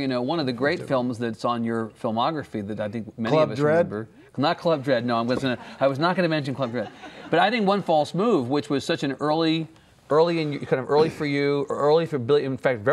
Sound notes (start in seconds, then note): 6.8 laughing